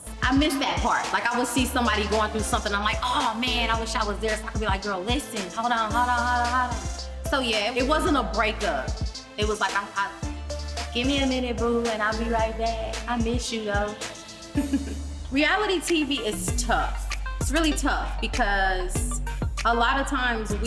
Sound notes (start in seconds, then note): 14.5 chuckles